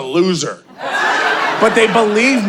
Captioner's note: audience laughing